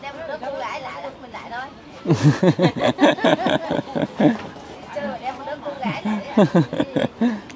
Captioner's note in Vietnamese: Tiếng cười